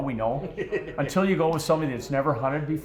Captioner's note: men laughing